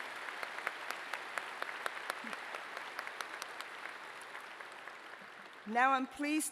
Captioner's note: applause